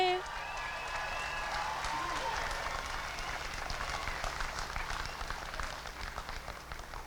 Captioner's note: applause and cheering